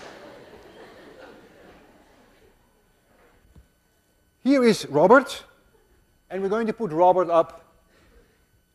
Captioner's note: class laughs